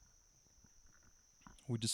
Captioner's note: silence